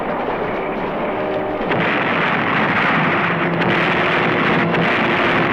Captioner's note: blasting